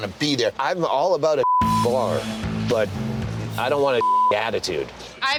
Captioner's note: beep